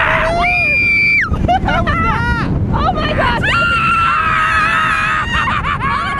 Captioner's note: screaming